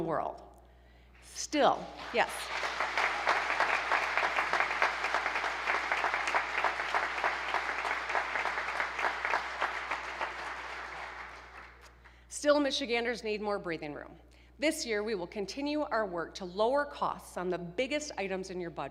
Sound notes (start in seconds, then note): 6.1 applause